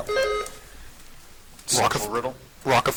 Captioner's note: buzzer chiming